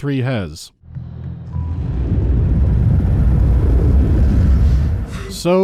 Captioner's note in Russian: низкий гул